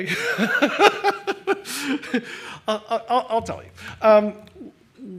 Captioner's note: laughs